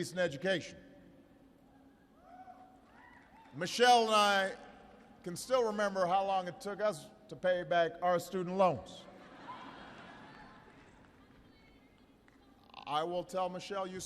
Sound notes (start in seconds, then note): 9.1 laughter